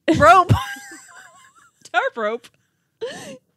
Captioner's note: wheezing